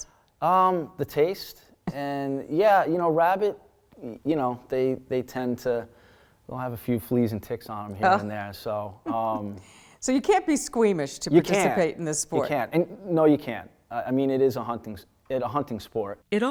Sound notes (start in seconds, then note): 9.0 laughs